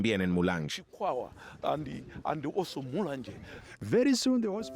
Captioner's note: Hablando idioma extranjero